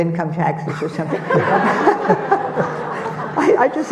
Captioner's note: audience laughing